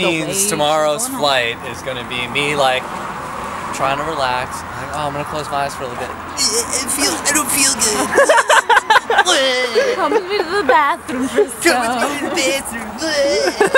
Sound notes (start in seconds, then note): 6.7 mockingly